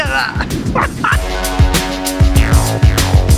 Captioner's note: laughs